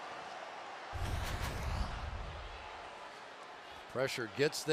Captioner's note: swoosh